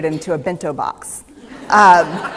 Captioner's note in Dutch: Gelach